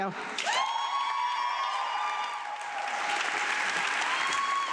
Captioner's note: audience clapping